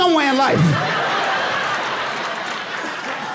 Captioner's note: man laughing and coughing